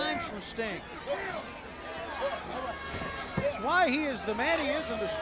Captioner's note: crowd chatter